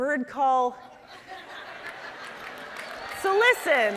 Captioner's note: audience cheering